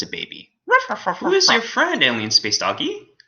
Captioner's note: alien space doggy laughing